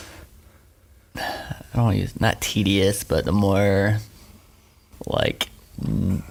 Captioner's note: sighing